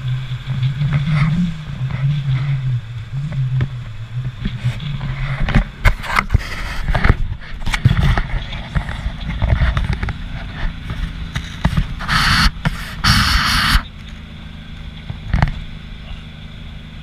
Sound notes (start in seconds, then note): 12.2 cars passing